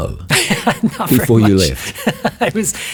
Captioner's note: laughs